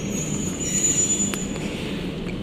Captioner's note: with brake sounds